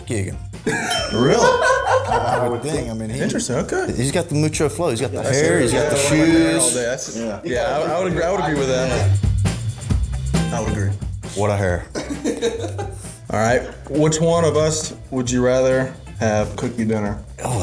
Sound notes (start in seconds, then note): 0.6 laughs; 0.6 ding; 3.5 laughs; 12.4 laughs